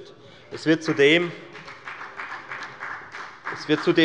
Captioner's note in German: Beifall bei der FDP